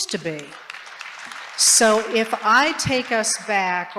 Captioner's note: applause